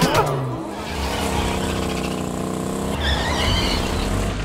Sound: distant laughter; car engine starts; tires screech

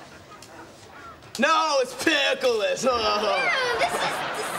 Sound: chuckles

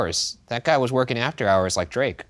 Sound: none

